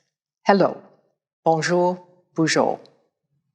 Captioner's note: speaking in foreign language